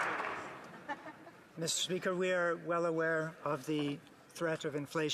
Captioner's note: some applause